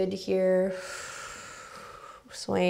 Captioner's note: smooth breathing